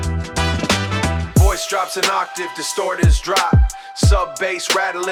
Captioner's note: voice drops an octave, distorted textures